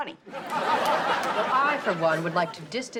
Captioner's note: audience laughs